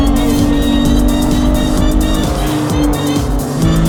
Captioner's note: engine revving